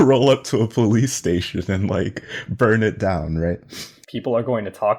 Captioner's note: laughs